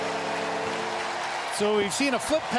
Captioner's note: horn Sounding; cheering and Applause